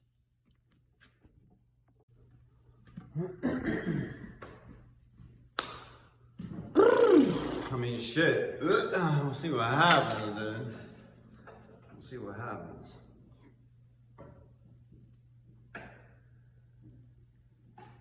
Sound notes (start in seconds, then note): 6.7 belch